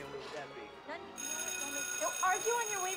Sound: bell ringing

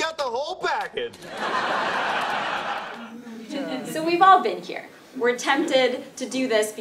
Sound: laugh

